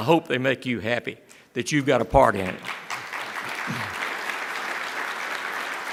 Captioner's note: applause